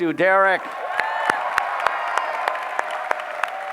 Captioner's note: applause